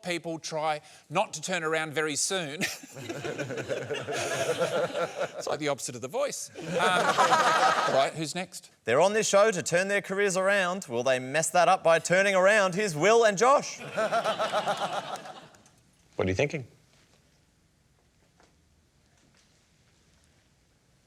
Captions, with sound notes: try not to turn around very soon. (LAUGHTER) It's like the opposite of The Voice. Alright, who's next? They're on this show to turn their careers around. Will they mess that up by turning around? Here's Wil and Josh. (LAUGHTER) What are you thinking?